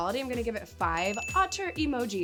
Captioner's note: bell ringing